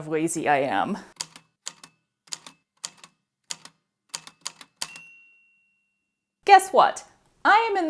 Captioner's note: A typewriter clicks away, then dings